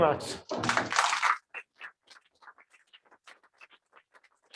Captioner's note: applause